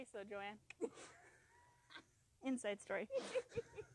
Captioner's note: laughing